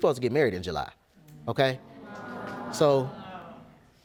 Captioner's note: gasping